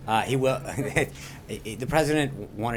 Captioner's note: laughter